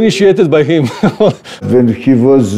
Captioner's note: laughs